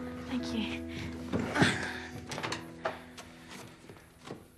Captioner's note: corrie groans